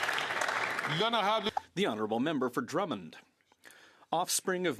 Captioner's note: some Applause